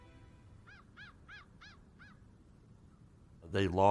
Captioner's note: crow sounds